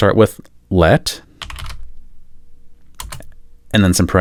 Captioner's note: typing